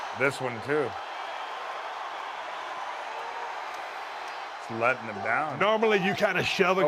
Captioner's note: applause